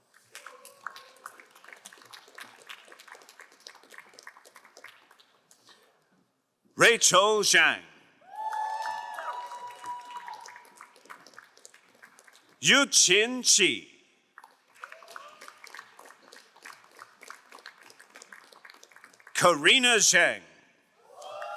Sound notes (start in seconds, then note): 0.1 crowd applauding; 8.3 crowd cheering and applauding; 14.4 crowd applauding; 21.1 crowd cheering and applauding